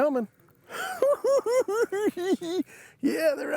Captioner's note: cackling